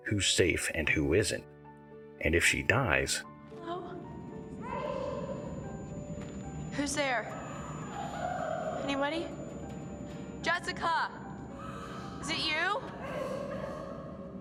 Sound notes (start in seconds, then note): 6.4 crying in the distance